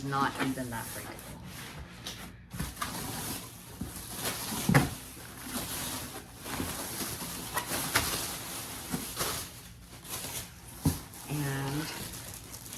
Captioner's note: plastic-removing noises